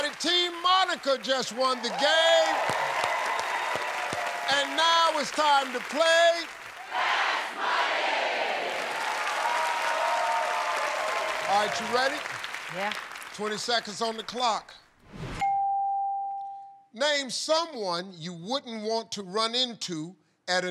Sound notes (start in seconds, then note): 9.4 cheers and applause